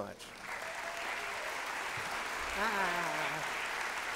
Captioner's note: applause